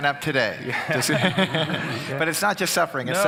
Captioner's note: laughing